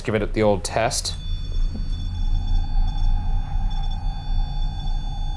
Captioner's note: machine beeping